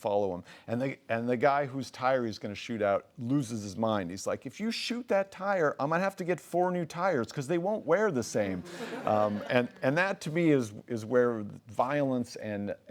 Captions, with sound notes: follow him. And the guy whose tire he's going to shoot out loses his mind. He's like, "If you shoot that tire, I'm going to have to get four new tires because they -won't wear the same." -[laughs] And that to me is where violence and